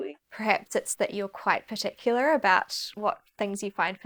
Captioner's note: none